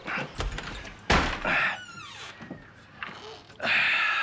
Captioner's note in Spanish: Portazo